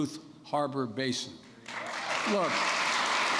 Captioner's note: applause